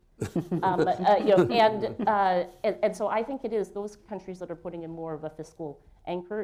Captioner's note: laughter